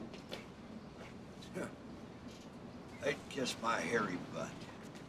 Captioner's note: scoffs